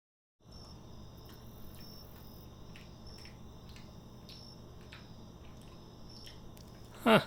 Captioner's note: chewing sounds